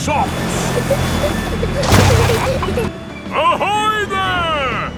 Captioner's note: peppa and george giggling